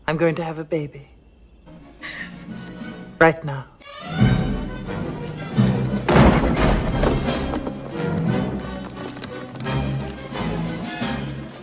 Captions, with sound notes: I'm going to have a baby, right now. (lively music) (door slams) (fingers tapping)